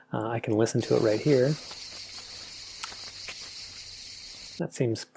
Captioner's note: sound clip playing sounds of insects chirping and feet walking on gravel